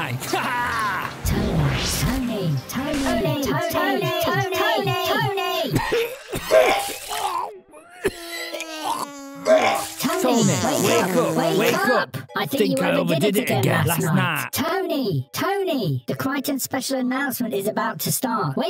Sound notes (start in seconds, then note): 6.0 coughing, puking, shitting and farting sounds; 9.0 more coughing, puking, shitting and farting sounds